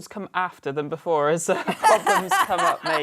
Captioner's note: laughter